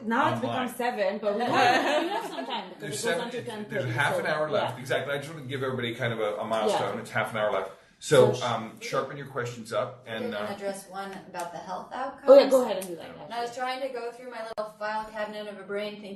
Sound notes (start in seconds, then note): 1.2 group laughing